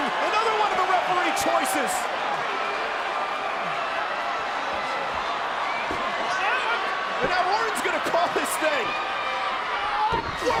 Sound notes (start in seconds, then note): 1.8 applause